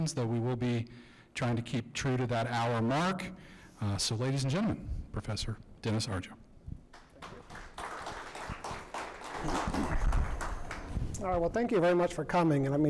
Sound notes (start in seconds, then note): 8.5 audience applauds